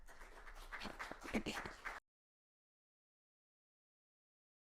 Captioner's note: attendees clapping